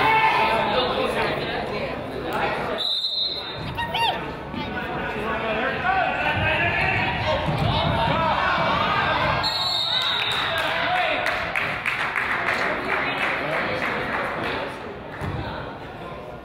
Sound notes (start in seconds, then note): 2.8 whistle blows; 9.4 whistle blows; 9.7 crowd applauds